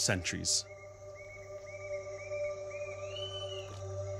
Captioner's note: birds calling